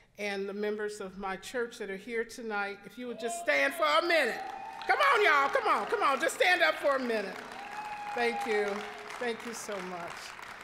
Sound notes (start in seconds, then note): 5.7 applause, cheering; 7.4 applause, cheering